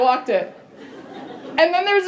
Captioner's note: laughter